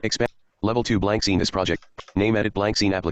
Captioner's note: computer Voice